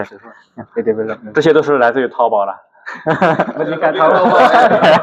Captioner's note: laughs